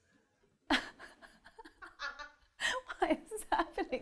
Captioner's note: laughter